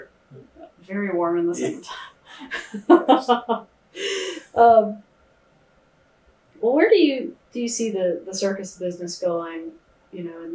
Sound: laughs

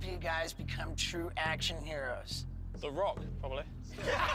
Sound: raucous laughter

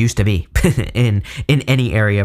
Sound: chuckling

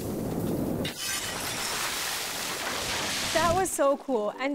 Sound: jars exploding

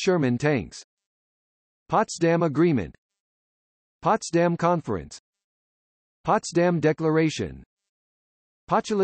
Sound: German

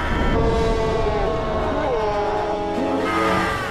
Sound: group screaming

